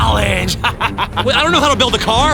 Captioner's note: manic laughing